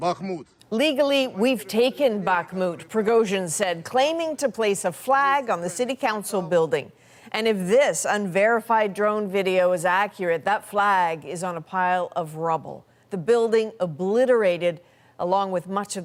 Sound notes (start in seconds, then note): 2.6 speaking alternate language